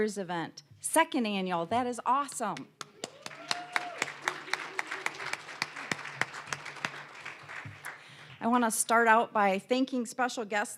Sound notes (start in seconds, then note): 2.8 applause, cheering; 6.3 applause